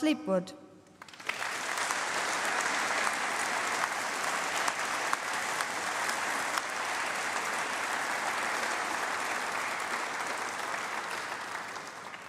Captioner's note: applause